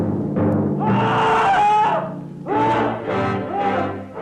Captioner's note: screams